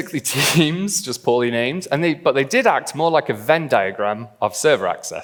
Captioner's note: laughs